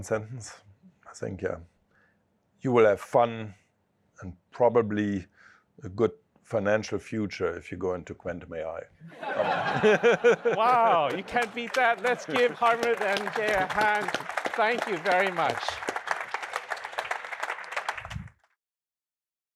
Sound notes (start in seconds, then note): 9.0 laughter